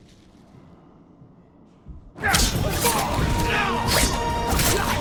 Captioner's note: yelling